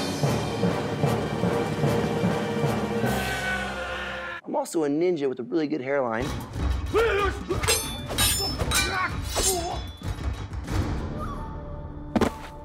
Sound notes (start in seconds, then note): 7.6 swords clanging